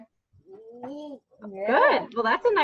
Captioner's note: vocalizes